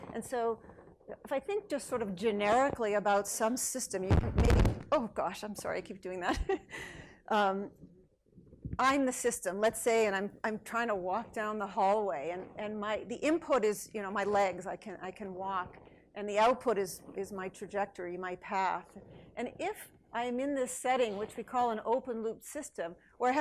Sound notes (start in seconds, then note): 4.4 microphone crackles; 8.1 laughs